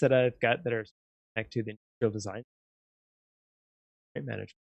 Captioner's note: audio out